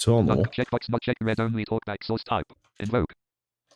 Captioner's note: automated voice